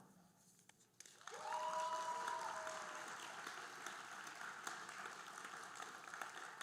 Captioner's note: audience cheering and applauding